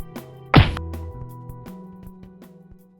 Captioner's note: thumps